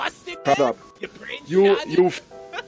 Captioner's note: laughs